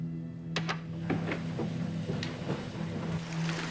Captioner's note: washing machine starts